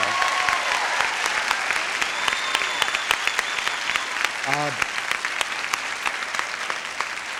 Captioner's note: audience applauding